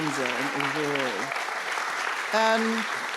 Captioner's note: applause